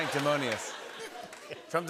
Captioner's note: laughter